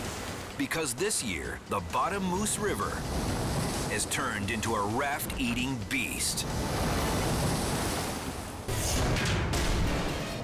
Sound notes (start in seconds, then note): 6.7 rapids thundering; 8.5 air whooshes